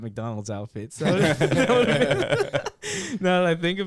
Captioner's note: laughter